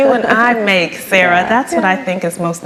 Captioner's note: laughs